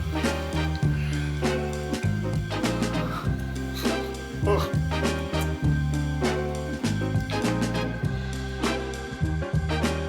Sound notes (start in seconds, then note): 4.3 Larry groaning